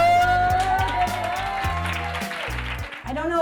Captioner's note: applause